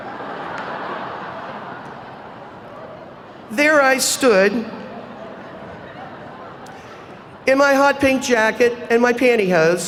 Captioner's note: laughter